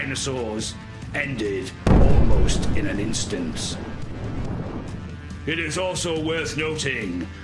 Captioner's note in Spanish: explosión